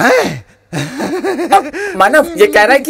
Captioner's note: Vishwas laughs